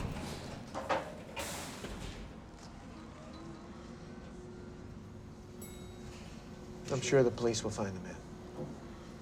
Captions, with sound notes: (elevator graunches) (elevator whirring) (elevator dings) - I'm sure the police will find the man.